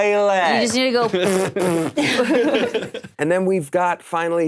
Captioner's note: imitating flatulence